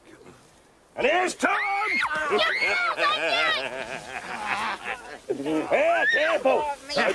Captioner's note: laughs; screaming and yelling